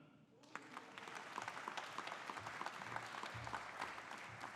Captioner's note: audience applauding